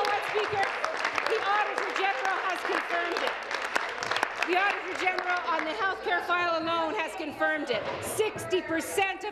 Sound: applause

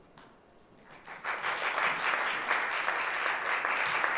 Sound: applause

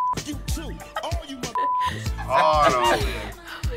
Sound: beep; laughs

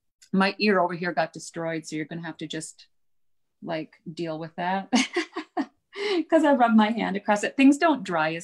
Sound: laughs

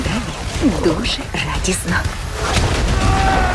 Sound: blows kiss; man yells

